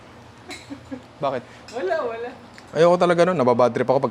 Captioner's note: chuckles